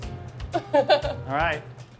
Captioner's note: chuckling